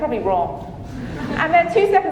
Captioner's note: audience chuckling